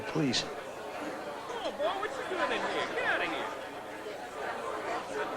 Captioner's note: crowd muttering and talking